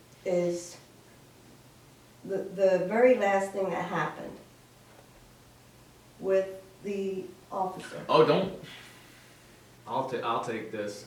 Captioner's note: sigh